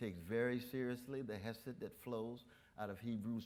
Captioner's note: none